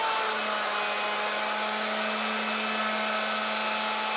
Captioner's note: machine whirring